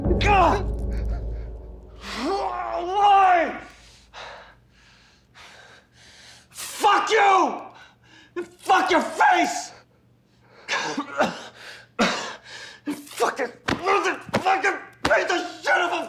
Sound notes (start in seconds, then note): 0.1 Rico screaming in frustration; 10.7 Rico coughing